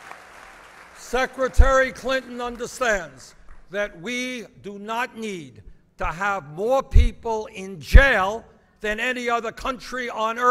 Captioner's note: applause